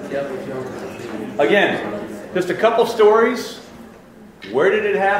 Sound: voiceover

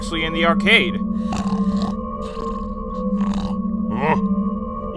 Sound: Guma snoring

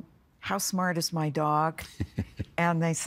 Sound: chuckling

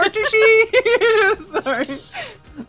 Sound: laughter

